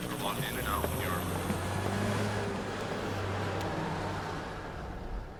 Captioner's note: vehicle whirring